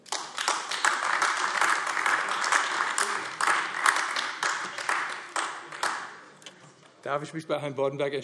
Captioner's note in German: Beifall AfD